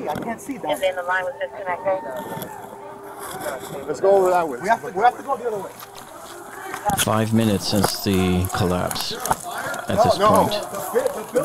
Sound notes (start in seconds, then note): 1.2 radio dispatching in background; 2.4 background screaming